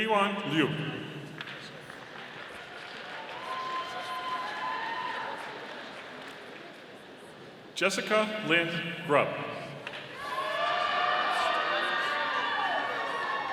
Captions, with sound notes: Heyuan Lyu. (audience applauding) Jessica Lynn Grubb. (audience applauding)